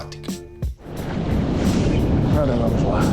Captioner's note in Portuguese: Som de água e passos